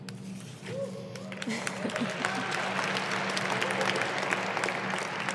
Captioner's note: audience applauding